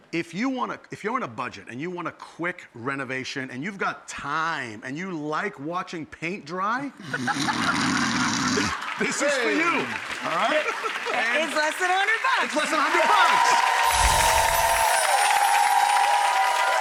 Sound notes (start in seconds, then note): 7.0 laughing; 10.1 audience applauding; 13.6 audience cheering